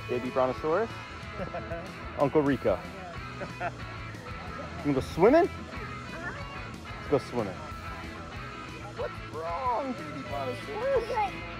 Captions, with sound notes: Baby Brontosaurus, Uncle Rico. (laughs) You go swimming? Let's go swimming. (upbeat music) What's wrong baby Brontosaurus?